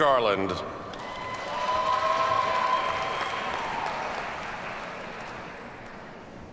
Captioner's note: audience cheers and applauds